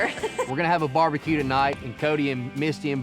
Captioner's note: laughter